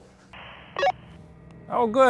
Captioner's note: radio beeps